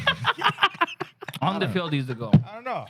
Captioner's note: laughing